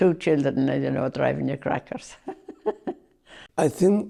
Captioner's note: laughs